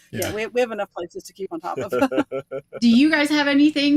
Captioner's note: chuckling